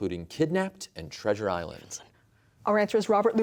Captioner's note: whispering